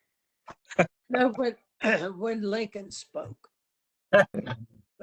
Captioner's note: laugh; cough; laugh